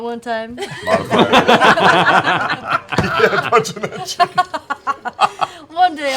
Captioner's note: laughter